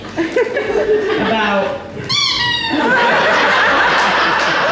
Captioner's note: squeak noise; audience Laughs